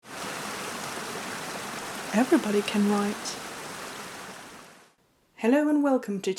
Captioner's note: rushing water